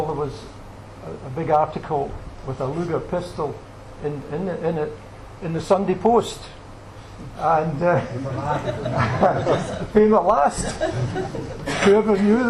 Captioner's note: laughter